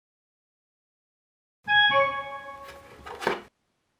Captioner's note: dinging